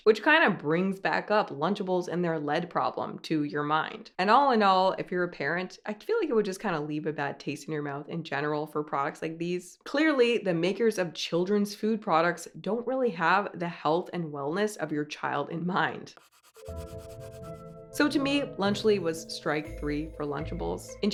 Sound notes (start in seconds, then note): 16.1 pencil scratching; 16.6 subdued music